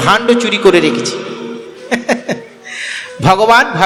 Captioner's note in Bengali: সশব্দ হাসি